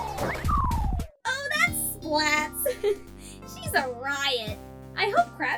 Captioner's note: laughs